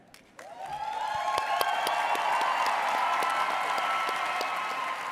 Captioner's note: audience cheers